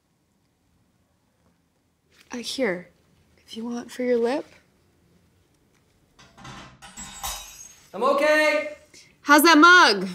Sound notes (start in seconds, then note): 6.2 something crashing and breaking in the other room